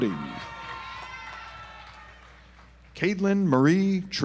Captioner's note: audience applauds